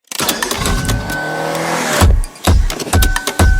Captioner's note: car motor whirring; upbeat music